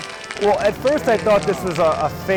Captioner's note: crowd clapping